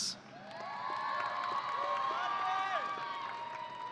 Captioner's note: audience cheering